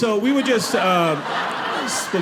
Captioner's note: audience laughing